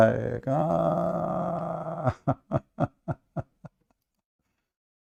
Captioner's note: Ketawa